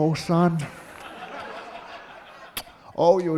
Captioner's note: audience laughing